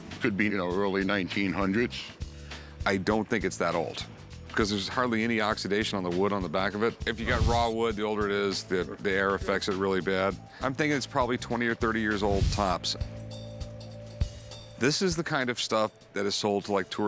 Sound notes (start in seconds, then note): none